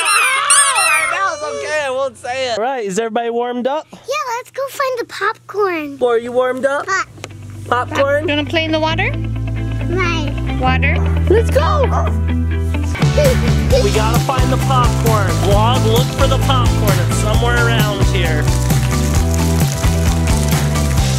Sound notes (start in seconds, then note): 0.0 squeaking sound; 0.0 screaming; 13.0 child laughing; 18.4 upbeat music